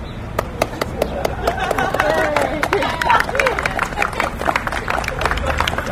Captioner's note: applause